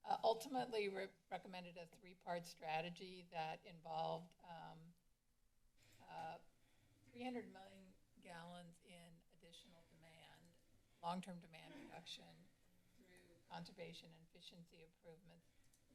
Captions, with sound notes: Ultimately, re- recommended a 3-parts strategy that involved um... uh... 300 million gallons in additional demand, long-term demand [cough] reduction, conservation and efficiency improvements.